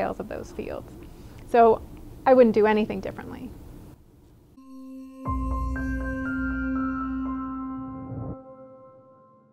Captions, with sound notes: of those fields. So I wouldn't do anything differently. [bright music] [whoosh]